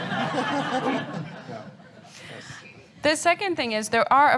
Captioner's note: audience laughter